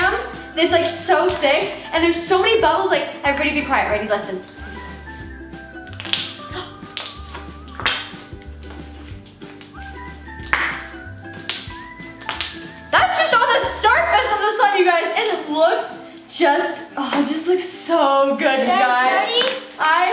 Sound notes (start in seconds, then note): 5.8 bubbles popping; 6.8 gasp